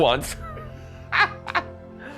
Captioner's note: laughs